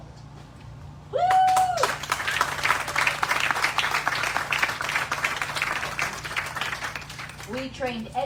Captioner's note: applause